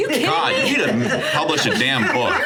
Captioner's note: Sarah and Richard laughing